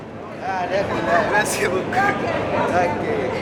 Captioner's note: people speak foreign language